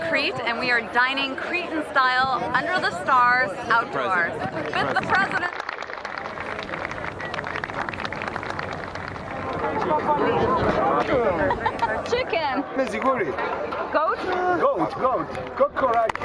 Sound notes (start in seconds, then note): 4.5 applause